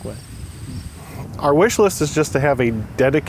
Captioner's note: voiceover